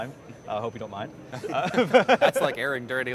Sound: laughs

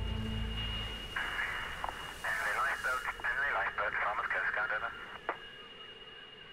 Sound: radio static

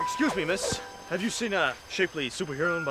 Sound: none

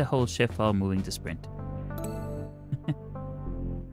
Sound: laughs

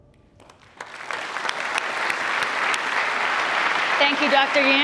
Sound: applause

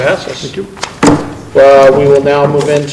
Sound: gavel thud

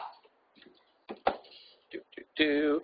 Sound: humming

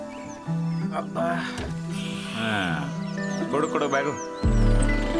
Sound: grunting and panting

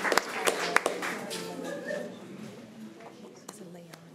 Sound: crowd chattering

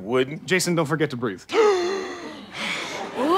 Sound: gasps for air

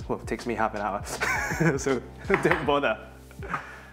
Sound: chuckles

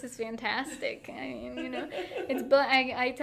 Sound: laughing

